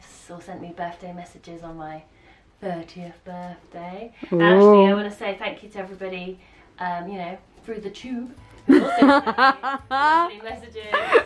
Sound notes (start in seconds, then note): 8.7 laughs